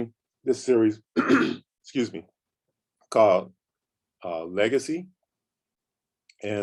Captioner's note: coughs